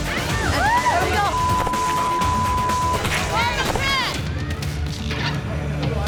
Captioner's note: tense music; beep